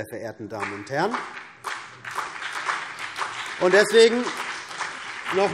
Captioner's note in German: Beifall CDU und BÜNDNIS 90/DIE GRÜNEN